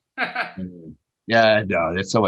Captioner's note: laughing